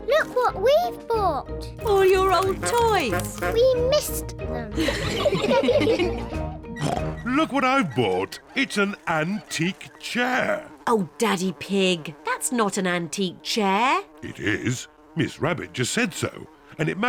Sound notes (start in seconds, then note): 4.8 all laugh; 6.7 oinks; 10.0 flies buzzing